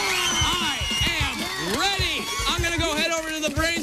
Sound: kids cheering

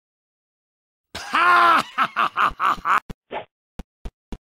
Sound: idiotic laughter

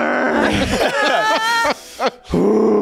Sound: laughing

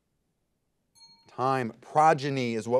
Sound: bell rings

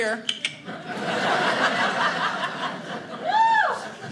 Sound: audience laughing

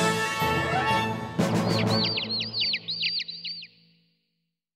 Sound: squeaking!

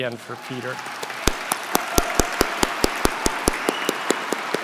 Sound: audience clapping

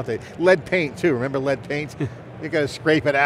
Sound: laughs

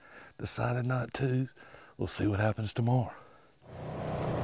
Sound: engine roaring

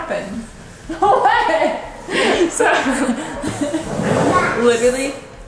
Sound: laughing

